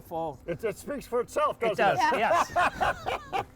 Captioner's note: laughing